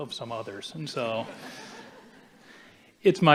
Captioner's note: audience chuckling